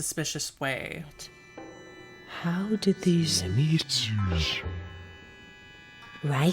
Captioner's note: echoey distortion until voice stops